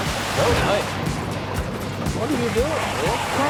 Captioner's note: water sloshing